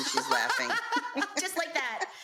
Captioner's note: laughing